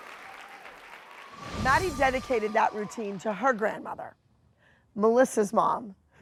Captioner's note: applause